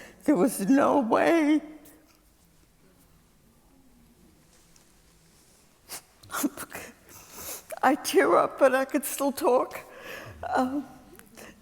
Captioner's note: A pause